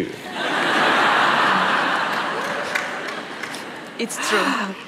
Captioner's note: laughter